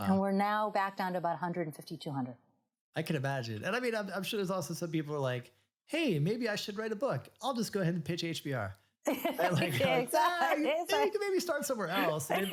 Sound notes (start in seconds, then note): 9.1 laughs